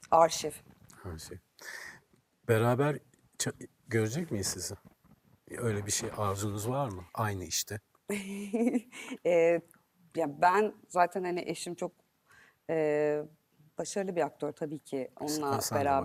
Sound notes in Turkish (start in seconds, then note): 8.1 kahkaha